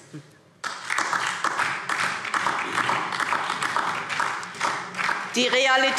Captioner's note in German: Beifall DIE LINKE